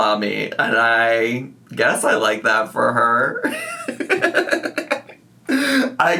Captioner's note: laughs